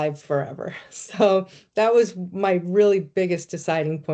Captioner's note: chuckling